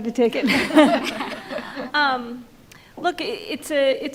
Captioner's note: panel laughs